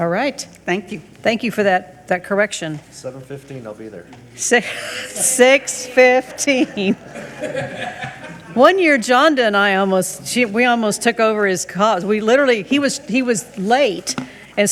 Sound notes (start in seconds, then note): 4.5 chuckles; 6.8 people chuckle